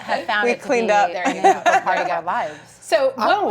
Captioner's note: laughter; laughs